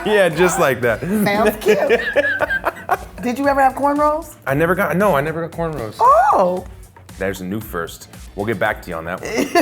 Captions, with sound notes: Yeah, just like that. - Sounds cute! (laughing) Did you ever have corn rows? - No I never got corn rows. - Oh! - There's a new first. We'll get back to you on that one.